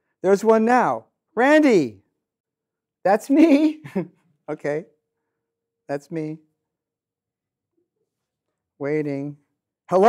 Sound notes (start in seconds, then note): 3.4 chuckles